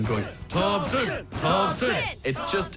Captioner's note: teenagers chanting "thompson"